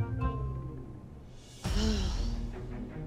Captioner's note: sighs